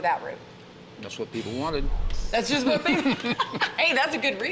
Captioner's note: laughs